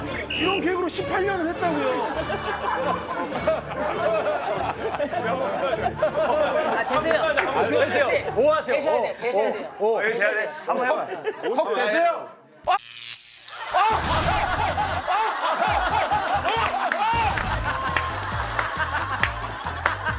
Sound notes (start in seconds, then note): 13.6 screaming; 17.1 yelling in pain